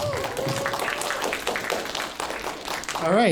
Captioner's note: applause